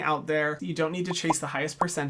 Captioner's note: bubbles popping